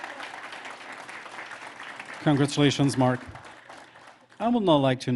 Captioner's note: applause